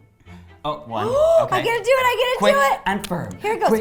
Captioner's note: gasps